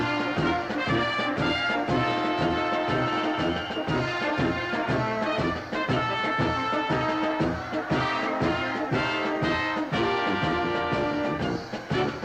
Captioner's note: applause